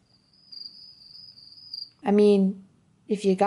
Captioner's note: crickets chirping